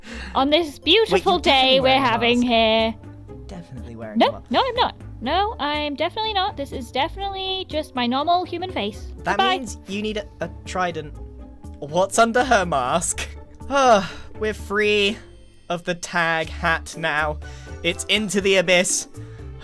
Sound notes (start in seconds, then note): 13.6 sighs